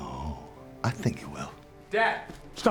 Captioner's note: scottish accent